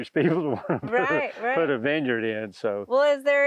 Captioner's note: laughs